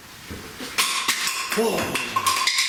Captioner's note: crashing sound